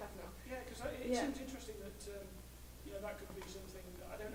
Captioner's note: voiceover